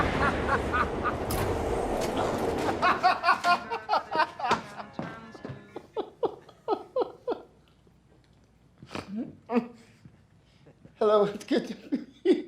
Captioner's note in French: rires; grognement; rires